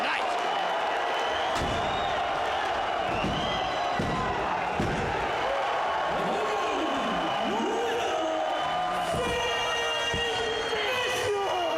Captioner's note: applause